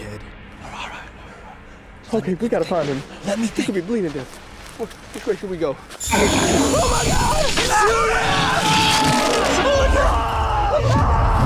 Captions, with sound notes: WE'RE ALL RIGHT. LET ME THINK. WE GOT TO FIND HIM. HE COULD BE BLEEDING TO DEATH. WHICH -- WHICH WAY SHOULD WE GO? [ GROWLS ] OH, MY GOD! SHOOT IT! OH, MY GOD! AAH! AAH!